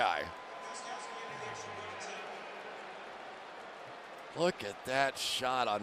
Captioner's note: pa announcement